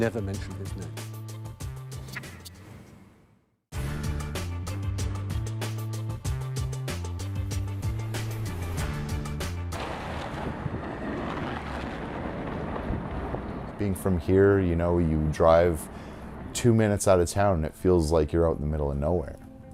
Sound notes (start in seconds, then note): 10.1 car tires on icy road